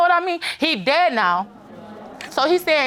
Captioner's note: audience groans